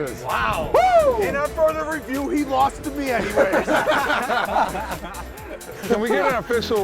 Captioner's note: laughing